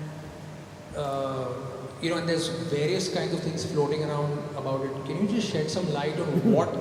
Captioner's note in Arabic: ضجك